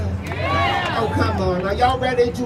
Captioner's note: crowd cheering